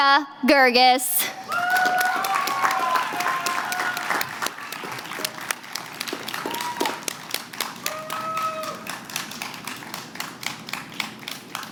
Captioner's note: applause